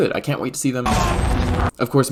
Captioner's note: dying sounds